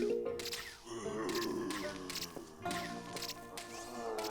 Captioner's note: zombie groaning